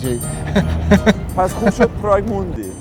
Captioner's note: laughter